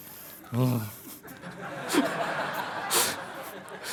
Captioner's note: laughter